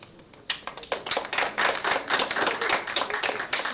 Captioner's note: applause